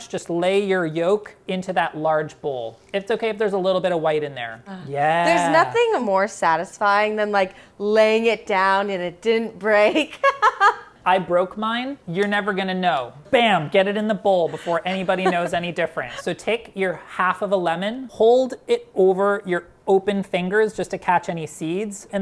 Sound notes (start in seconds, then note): 10.3 laughing